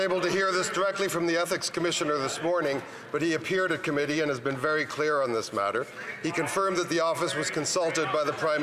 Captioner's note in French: voix de l'interprète